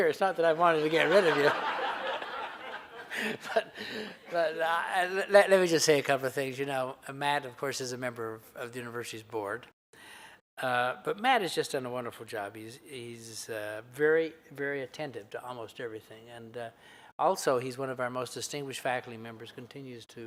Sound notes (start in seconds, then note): 4.6 laughter